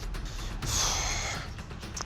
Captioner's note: exhales